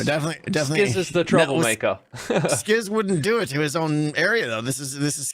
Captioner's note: laughs